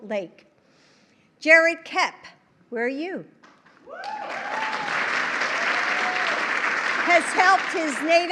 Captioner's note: applause